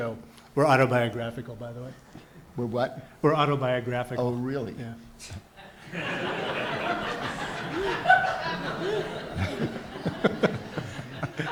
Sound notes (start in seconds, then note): 5.6 audience laughs